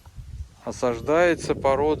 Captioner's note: wind